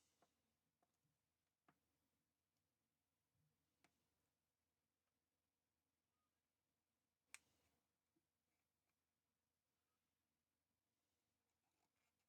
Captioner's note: silence